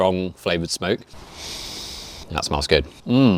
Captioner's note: host inhales deeply